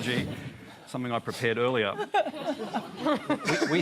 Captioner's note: laughter